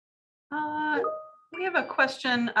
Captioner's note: chimes